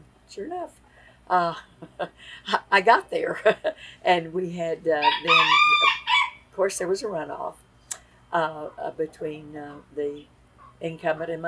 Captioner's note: laughs